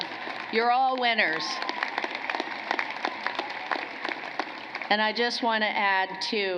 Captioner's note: cheering and applause